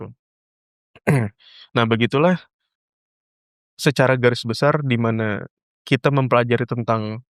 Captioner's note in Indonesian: berdehem